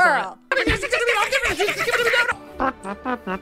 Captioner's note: catfighting; trumpet noises